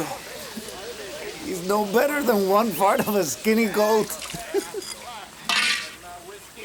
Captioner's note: giggles